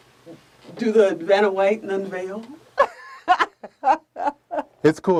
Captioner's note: laughs